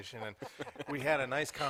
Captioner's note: laughter